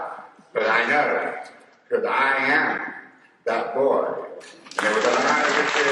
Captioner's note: applause